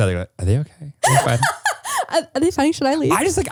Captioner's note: laughing